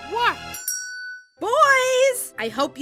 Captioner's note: bell chimes